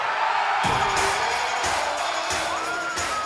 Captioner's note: cheers and applause